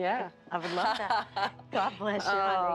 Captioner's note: laughs